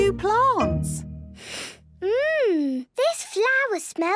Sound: sniffs

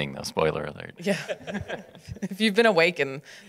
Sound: laughs

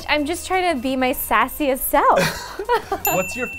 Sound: bell dings

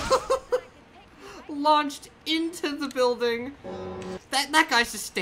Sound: death knell

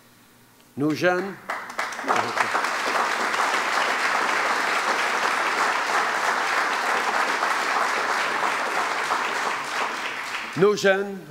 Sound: applause

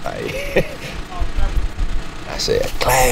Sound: chuckling

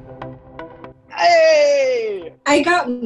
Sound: chill music; yelling

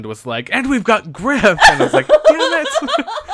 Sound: laughs

